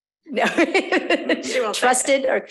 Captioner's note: laughing